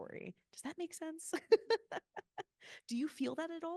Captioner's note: laughing